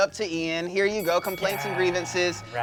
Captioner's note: bell dings